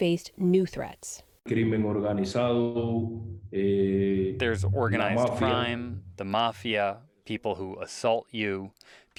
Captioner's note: through translator